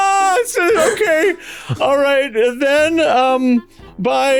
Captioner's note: mental breakdown noises